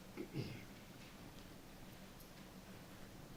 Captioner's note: clear throat